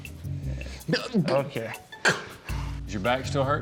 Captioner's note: sharply inhales